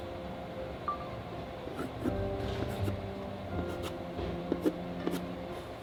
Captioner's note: drawing ASMR